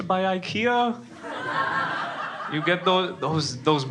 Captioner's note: crowd laughing